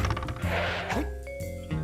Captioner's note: grumbles